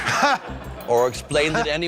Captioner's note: laughter